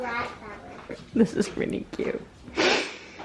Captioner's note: laughing